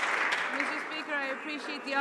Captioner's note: some Applause